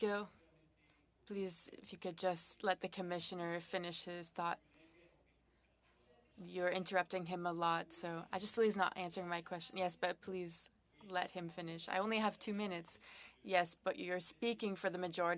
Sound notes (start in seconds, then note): 2.5 speaking French